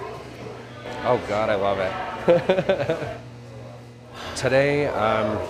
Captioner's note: laughing